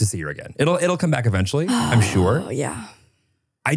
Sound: sighs

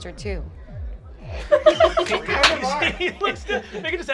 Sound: group laughs

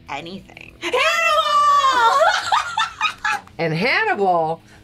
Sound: laughs

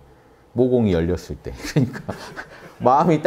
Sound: laughters

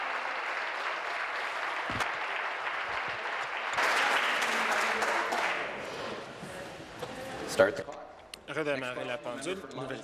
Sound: applause

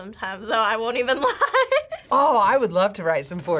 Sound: laughs

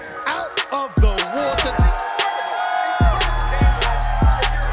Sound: crowd cheering

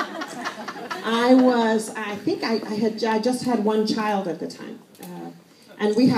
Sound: laughter

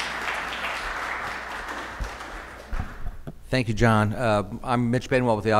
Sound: applause

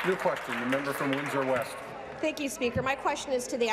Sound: applause

